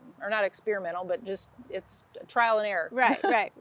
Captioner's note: chuckles